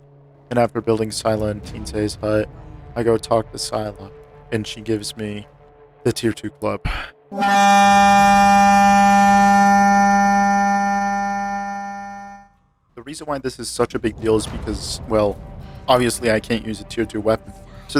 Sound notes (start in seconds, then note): 6.8 sigh; 7.3 lobotomy sound effect